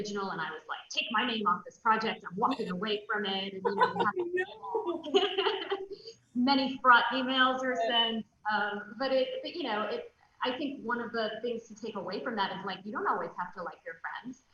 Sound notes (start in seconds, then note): 3.6 loud laughs